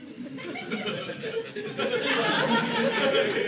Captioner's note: audience laughing